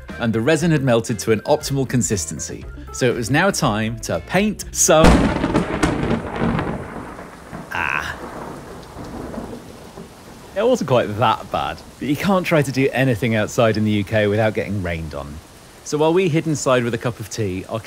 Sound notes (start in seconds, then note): 5.3 thunder rumbles